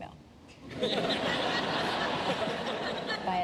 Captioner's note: laughter